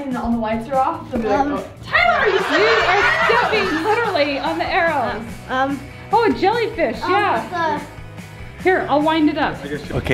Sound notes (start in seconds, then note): 1.9 crowd laughing